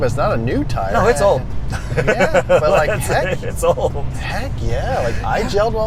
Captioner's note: laughs